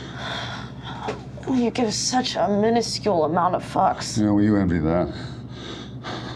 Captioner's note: Gore breathing heavily; breathing heavily